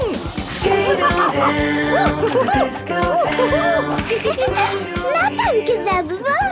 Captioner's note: laughing and exclaiming